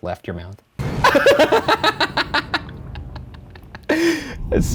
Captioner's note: laughing